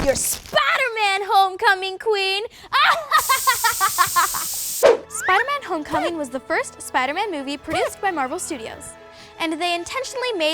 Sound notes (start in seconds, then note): 2.7 laughter